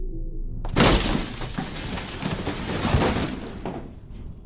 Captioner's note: crashing